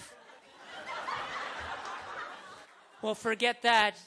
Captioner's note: audience laughter